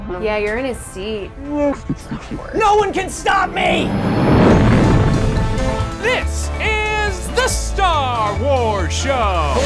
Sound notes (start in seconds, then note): 1.6 Chewbacca sounds